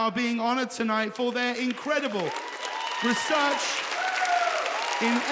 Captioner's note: audience applauds